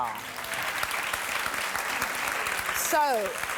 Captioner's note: applause